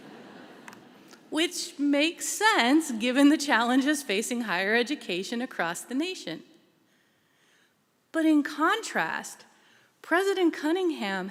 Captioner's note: laughter